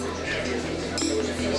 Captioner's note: glasses clink